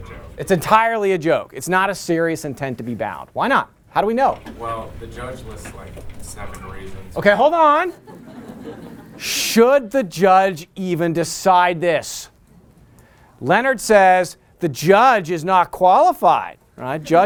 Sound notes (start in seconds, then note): 7.8 laughter